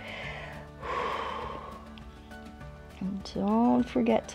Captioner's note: inhales and exhales